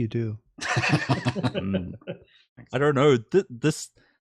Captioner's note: laughter